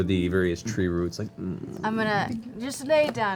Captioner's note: grunts